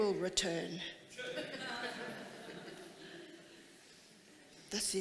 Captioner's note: audience laughing